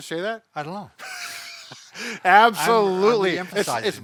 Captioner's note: laughs